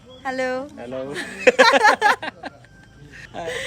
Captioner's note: bursts out laughing